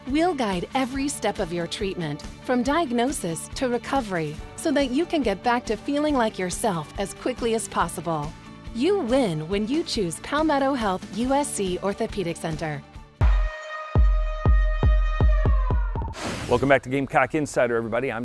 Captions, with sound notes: We'll guide every step of your treatment, from diagnosis to recovery, so that you can get back to feeling like yourself as quickly as possible. You win when you choose Palmetto Health USC Orthopedic Center. (upbeat music) (air whooshing) - Welcome back to Gamecock Insider, everybody.